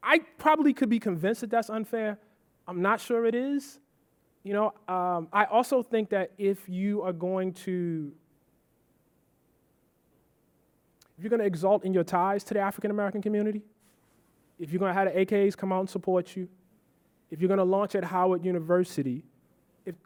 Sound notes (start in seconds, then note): none